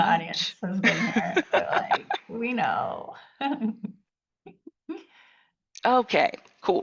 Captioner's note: laughing